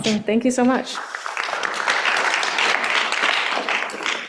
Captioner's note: applause